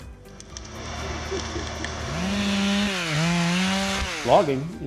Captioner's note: chainsaw engine revving